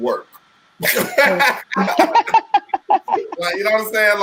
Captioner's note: laughing